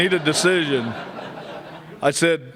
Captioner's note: laughter